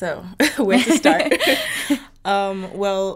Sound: both laughing

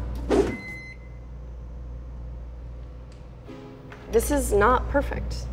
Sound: microwave beeps

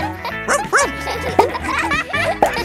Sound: barks

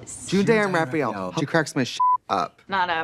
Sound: beep

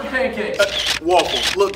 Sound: cameras shutter

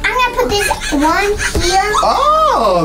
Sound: monkey screams

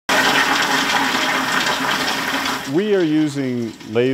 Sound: toilet flush

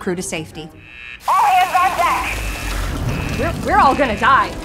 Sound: alarm blaring

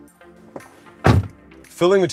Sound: car door thuds

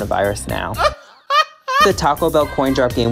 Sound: laughs

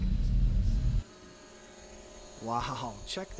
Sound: camera drone flying

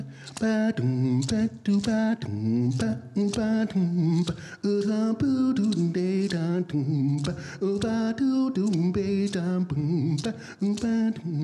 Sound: vocal beat making

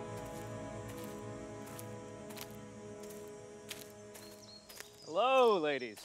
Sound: birds chirping; footsteps pattering

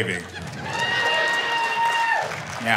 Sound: cheers, applause

